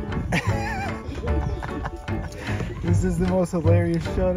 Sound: laughing

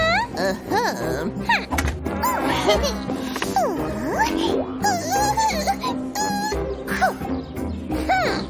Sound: making frightened sounds

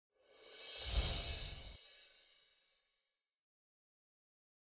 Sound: chime's ringing

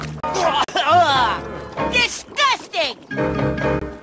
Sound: cough

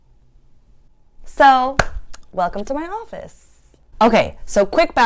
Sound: clapping

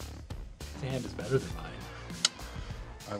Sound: lamenting

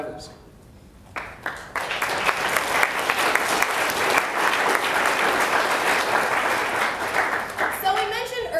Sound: applause

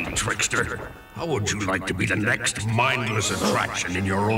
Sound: gasps

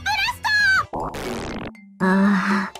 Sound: braaaap

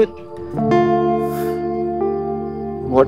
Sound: sighs

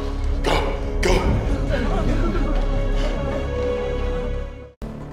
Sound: panicked chatter

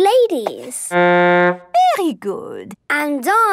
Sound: horn blowing

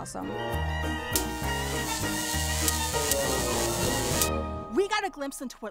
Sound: electricity buzzing

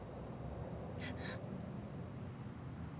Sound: gasps

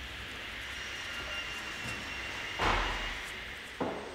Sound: distant sawing noise

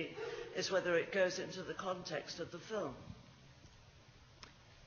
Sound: none

